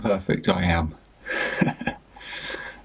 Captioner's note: chuckles